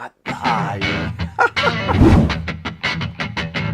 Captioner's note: laughter